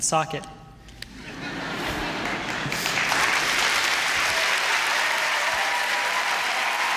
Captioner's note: applause and cheering